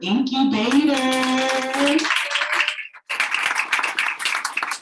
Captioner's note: audience applauding